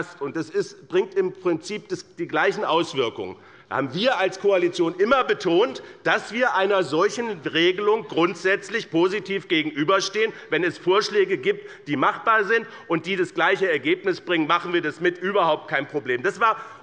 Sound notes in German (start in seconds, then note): none